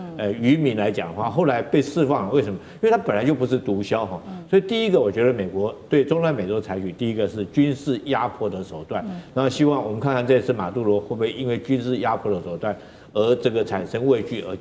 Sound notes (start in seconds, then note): 8.0 in Taiwanese